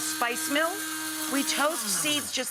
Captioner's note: spice mill whirring